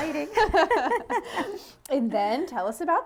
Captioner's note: laughs